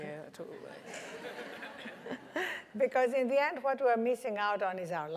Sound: laugh

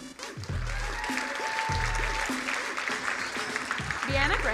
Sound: crowd cheering and applauding; groovy music

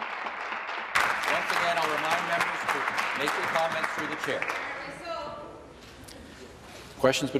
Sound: applause

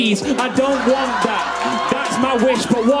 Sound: crowd cheering

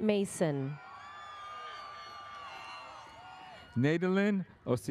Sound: audience cheers

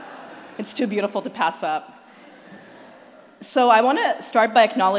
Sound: laughter

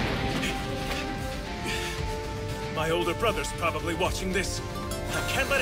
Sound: panting

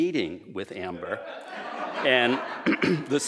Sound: laughter

